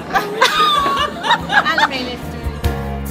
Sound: laughter

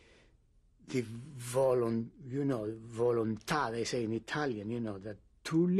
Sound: italian

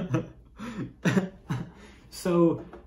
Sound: laughs

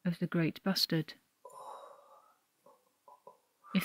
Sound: heavy breathing

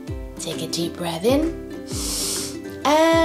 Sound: breathes in deeply

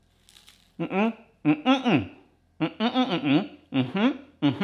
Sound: grunts

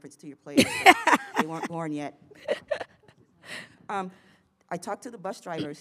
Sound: laughs

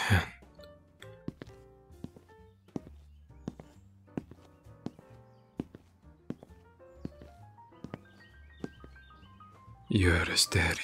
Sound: wind blowing and birds chirping

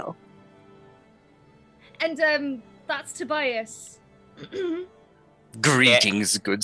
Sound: clears throat

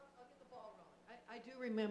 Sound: voiceover

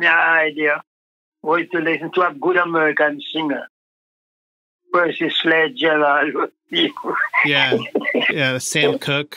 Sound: laughs

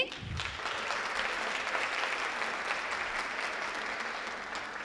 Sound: audience applauding

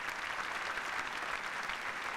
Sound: applause

